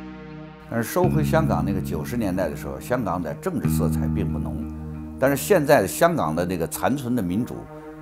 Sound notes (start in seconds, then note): 1.0 speaks in Chinese